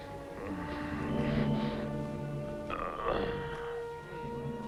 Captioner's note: assaulter moaning